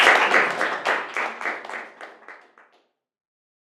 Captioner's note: applause